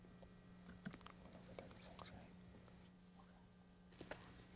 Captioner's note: whispering